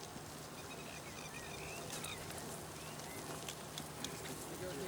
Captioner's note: birds chirping